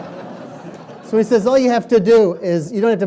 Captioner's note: laughing